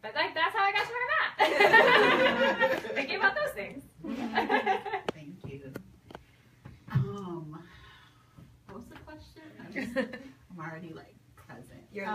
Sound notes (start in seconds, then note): 1.4 audience laughs